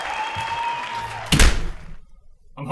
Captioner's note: door slams